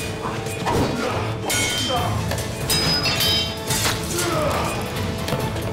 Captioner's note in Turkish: Kılıç sesi